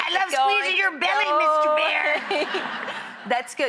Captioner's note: audience laughing